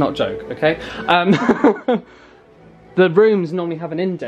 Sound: chuckling

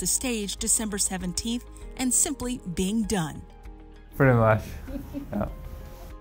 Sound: laughs

